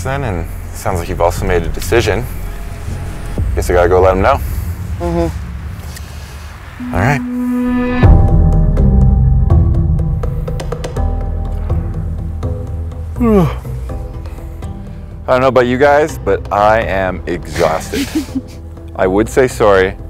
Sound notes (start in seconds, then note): 8.2 suspenseful music; 13.1 yawns